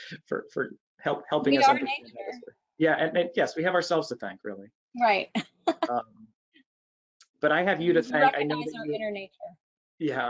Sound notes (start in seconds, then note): 0.0 chuckles; 7.4 chuckles